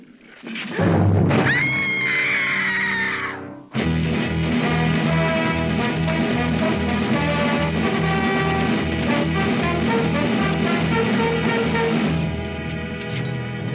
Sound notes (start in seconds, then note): 1.3 dramatic music; 1.4 Juanita screams; 3.7 triumphant music